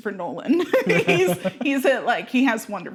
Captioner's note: laughing